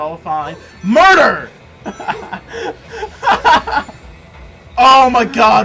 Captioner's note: laughs